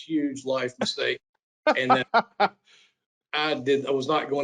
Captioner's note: laughs